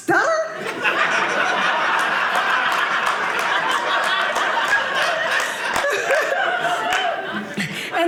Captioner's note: audience laughing